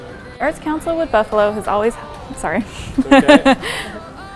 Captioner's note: laughs